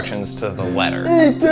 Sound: mocking

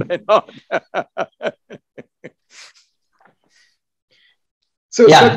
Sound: laughs

